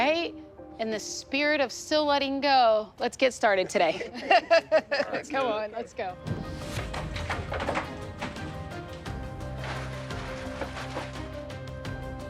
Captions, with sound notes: In the spirit of still letting go, let's get started today. (laughing) Come on, let's go. (tense music)